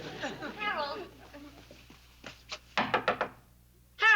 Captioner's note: knocks